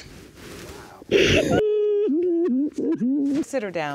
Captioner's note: sobbing